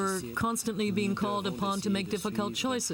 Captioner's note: speaking French